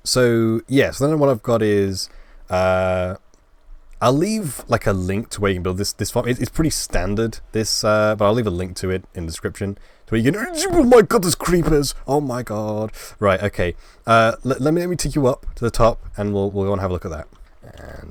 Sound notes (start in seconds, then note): 10.6 scared Noises